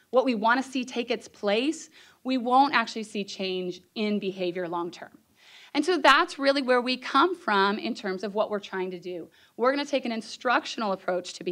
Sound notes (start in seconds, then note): none